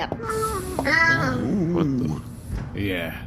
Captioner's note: quietly